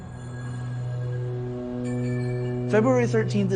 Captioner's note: tinkling